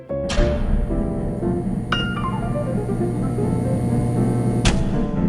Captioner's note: electrical hum; loud switching noise, electrical hum stops